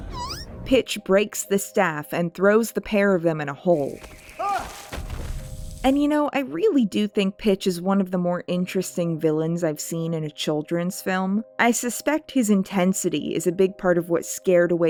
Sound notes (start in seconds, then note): 4.2 Jack cries out